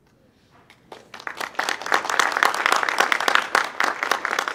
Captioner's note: audience clapping